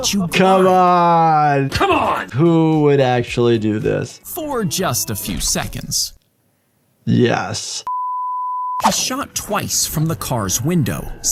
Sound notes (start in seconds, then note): 7.8 screen beeps